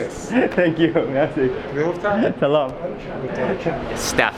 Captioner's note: laughing; speaking in foreign language